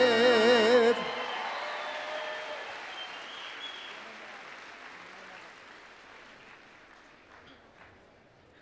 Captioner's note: applause, cheering